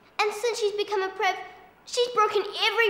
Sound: none

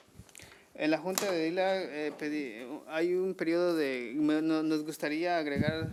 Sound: man speaking foreign language

